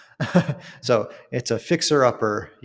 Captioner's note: laughs